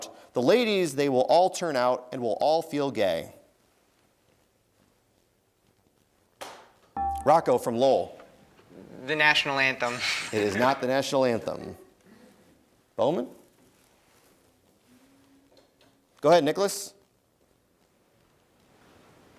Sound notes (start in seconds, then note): 7.0 dinging; 9.8 laughs